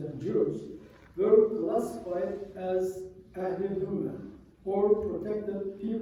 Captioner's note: non-english